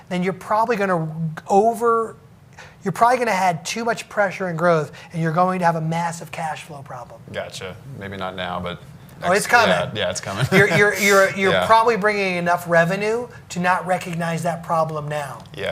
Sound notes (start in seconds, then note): 10.3 laughs